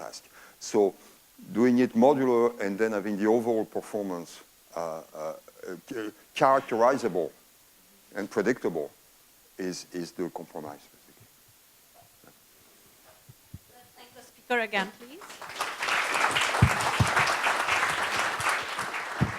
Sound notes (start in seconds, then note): 13.6 claps